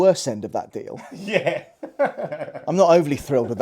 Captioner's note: laughs